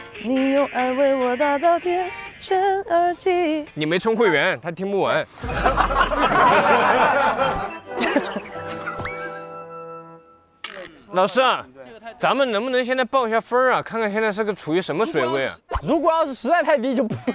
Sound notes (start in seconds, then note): 5.6 hahaha